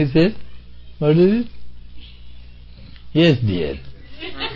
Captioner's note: laughter